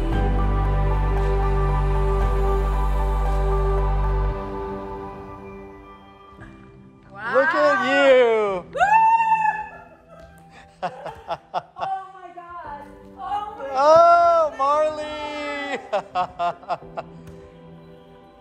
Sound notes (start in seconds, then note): 8.6 cheering; 9.0 laughing; 15.5 laughs